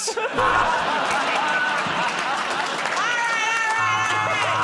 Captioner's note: laughter